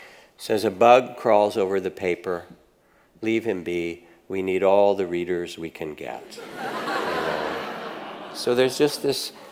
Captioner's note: audience laughs